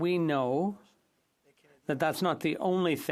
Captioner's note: speaking French